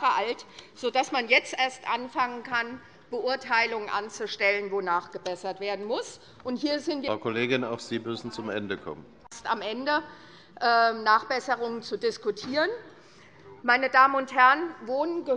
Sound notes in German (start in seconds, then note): none